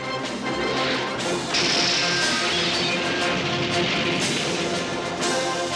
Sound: music and glass crashing

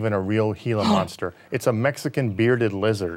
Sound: gasping

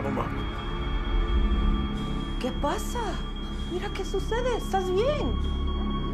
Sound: alarm blaring; speaking Spanish

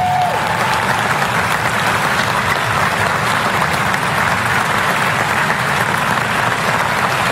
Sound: applause

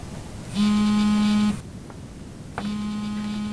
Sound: phone dialing; phone Call Buzzing; running

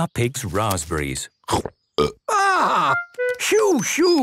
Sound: burps

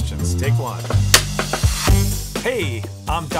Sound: clapperboard claps

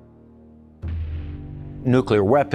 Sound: bomb exploding

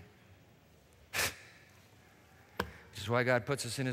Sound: scoffs

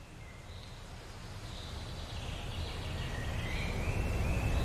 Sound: birds chirping

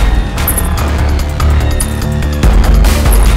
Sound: tinkling

